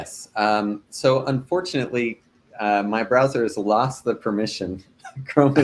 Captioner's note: laughing